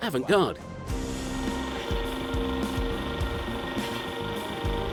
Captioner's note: engine rumbling